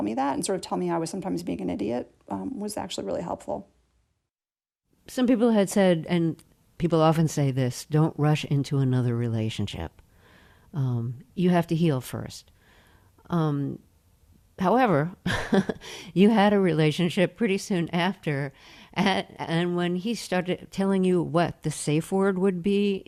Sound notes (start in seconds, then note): 15.2 laughter